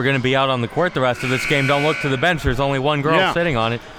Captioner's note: buzzer sounding